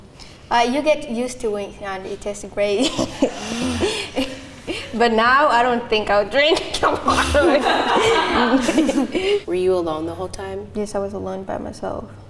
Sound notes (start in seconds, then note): 3.3 laughing; 8.9 laughter